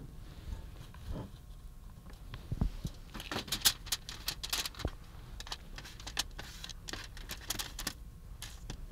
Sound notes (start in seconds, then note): 2.6 shuffling, spreading